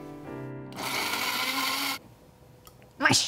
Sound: food processor whirring

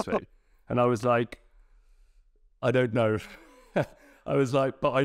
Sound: laughs; laughing

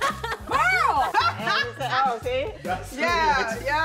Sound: all laughing

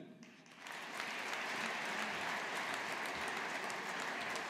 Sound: audience applauding

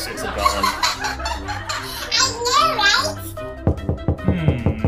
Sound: continues laughing; knocking on door

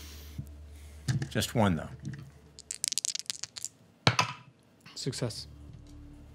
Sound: dice rolling

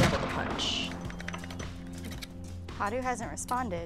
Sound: gunshot; knife scraping

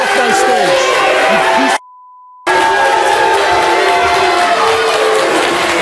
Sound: audience applause, boos

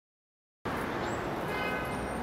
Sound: birds chirping; car horn honking

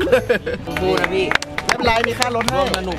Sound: applauding

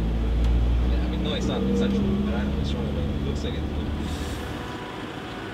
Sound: murmuring

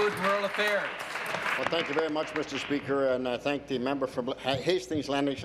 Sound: applause

